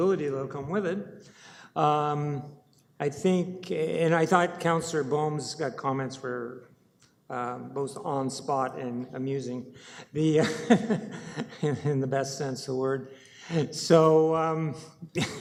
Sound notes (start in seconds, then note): 10.3 councillor chuckles